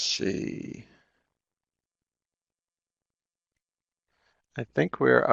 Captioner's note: no sound - waiting for questions in the chat